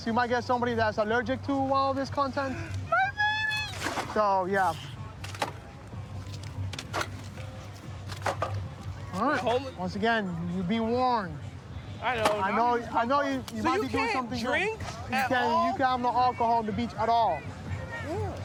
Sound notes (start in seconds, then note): none